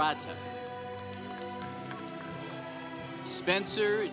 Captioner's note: congregation applauding